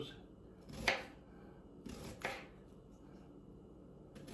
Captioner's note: knife slices